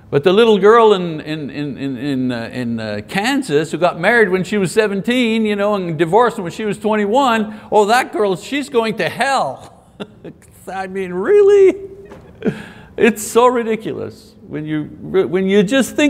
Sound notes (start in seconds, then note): 9.9 laughs